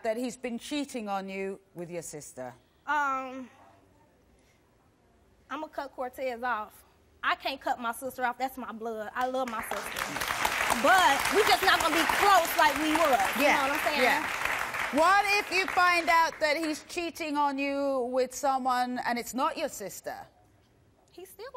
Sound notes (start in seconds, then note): 10.7 audience applause